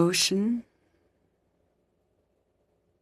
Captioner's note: speaking French